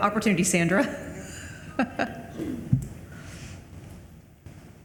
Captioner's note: Madam Chair laughs